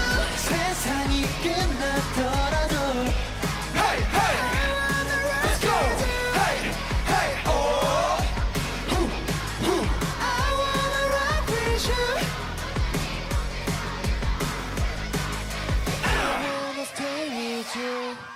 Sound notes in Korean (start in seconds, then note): 6.2 호응 소리